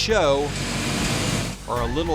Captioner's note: Zamboni whirring